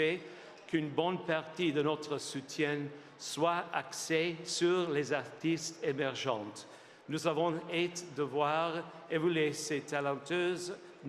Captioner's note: speaking French